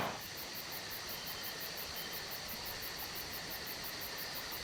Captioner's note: birds chirping